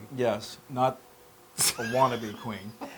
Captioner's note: laugh